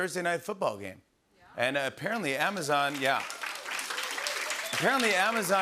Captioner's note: cheers and applause